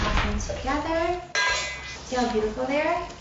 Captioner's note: metal spoon clanking bowl